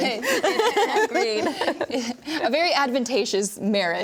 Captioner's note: everyone laughing